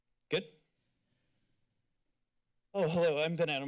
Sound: silence

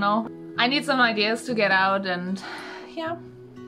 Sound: sigh

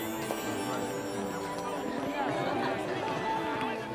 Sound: <i>laughing

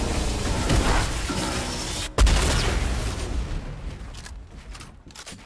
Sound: gun bangs; gun clicks

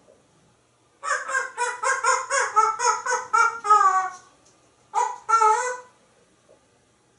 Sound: dog Barking Sounds

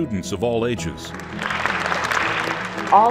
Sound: applause

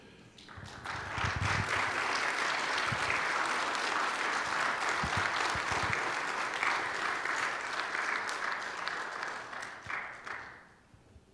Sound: audience applauding

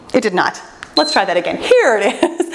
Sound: timer beeps

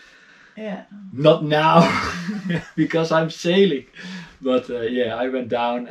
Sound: chuckles

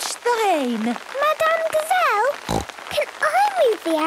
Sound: snorting

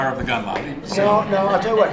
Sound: laughter

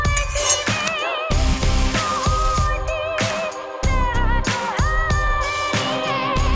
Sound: spatula scraping; grease sizzling

